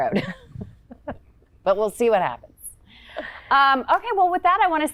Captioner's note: laughs